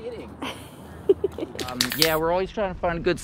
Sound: laughing

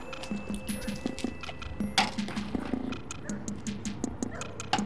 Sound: ball clattering

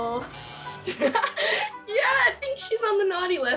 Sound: buzzer; laughter

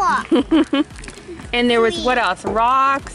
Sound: laughs

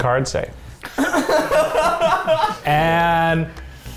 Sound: laughter

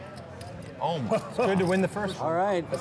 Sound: laughing

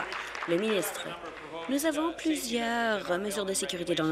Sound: applause

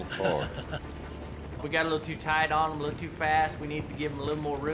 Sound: laughing

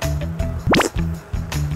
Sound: slurp

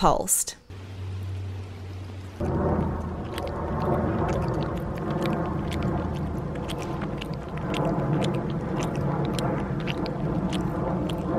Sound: bat Eating Sound

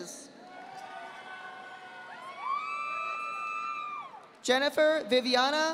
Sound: audience applauding

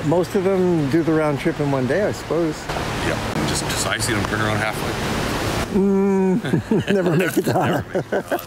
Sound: laughter

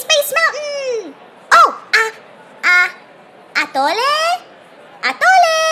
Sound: calling out

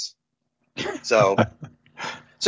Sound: laughs

